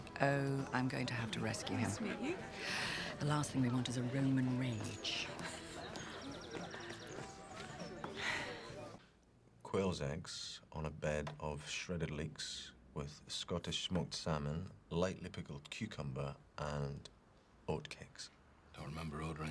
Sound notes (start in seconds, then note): 5.9 Kate laughs; 8.1 birds chirping; 8.1 upbeat music